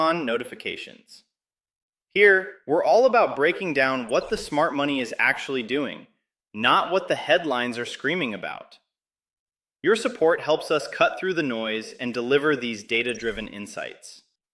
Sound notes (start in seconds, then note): 6.5 sarcastic